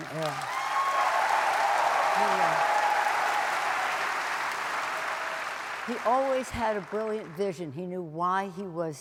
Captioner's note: applause